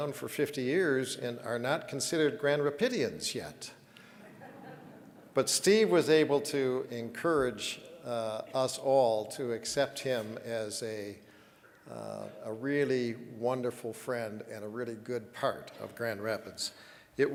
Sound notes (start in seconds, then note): 4.1 audience chuckling